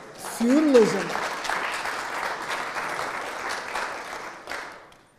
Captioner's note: audience clapping